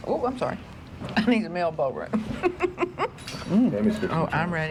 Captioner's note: chuckles